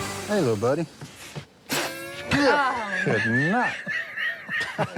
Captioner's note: hisses, laughs